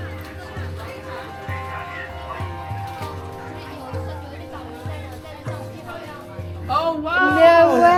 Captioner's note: speaking in Chinese